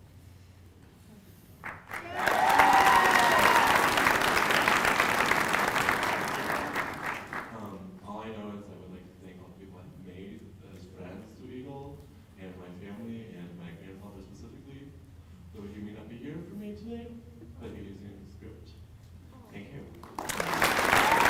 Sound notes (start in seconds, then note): 0.0 applause